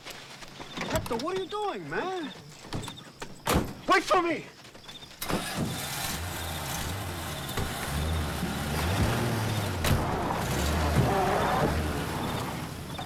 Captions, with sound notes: - Hector, what are you doing, man? (truck door slams) Wait for me! (truck engine revs)